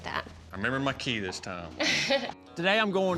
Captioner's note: chuckles